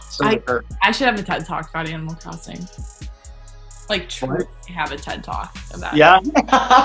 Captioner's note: laughter